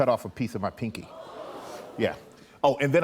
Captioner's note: audience gasps